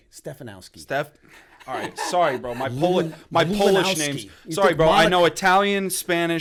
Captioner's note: chuckle